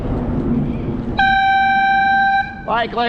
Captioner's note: 90+dB air horn blast